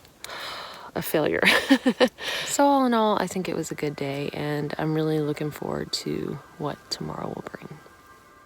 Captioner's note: chuckles